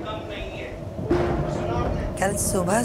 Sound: thundering

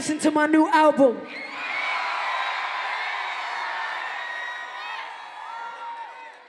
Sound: cheering

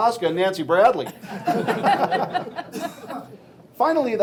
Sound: laughing

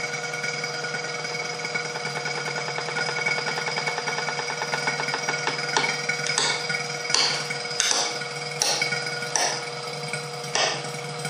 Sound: sound of pump running, and creaking sounds from chamber

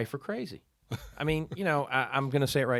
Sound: laughing

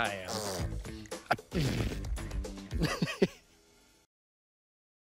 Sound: raspberries; laughs

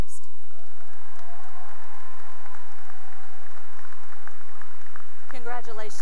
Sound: cheering and applause

